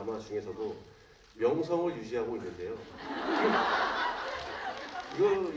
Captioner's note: laughter